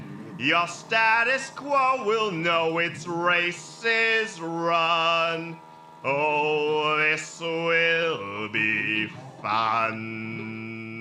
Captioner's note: cackle